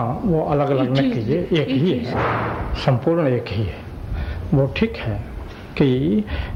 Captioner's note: discussion in Hindi